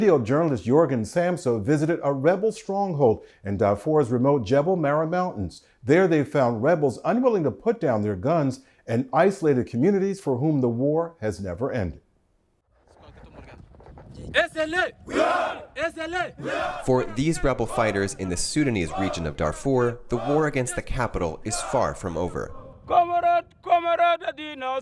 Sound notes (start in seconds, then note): 17.8 military chanting